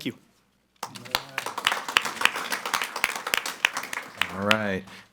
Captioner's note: group clapping